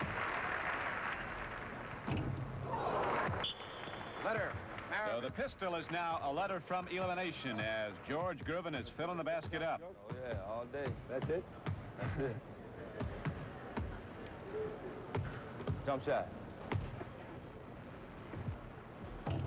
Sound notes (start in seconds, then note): 0.0 applause; 2.7 whistle blows